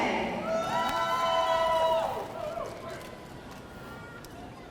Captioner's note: audience cheering